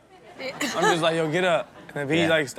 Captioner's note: crowd laughs